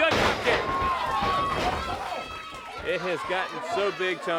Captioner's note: crowd cheering